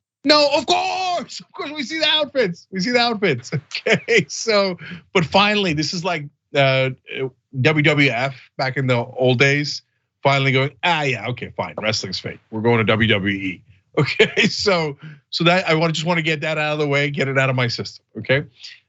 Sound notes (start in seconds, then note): 3.9 laugh